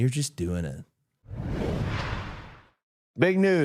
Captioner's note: graphic whooshing